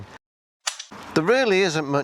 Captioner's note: snap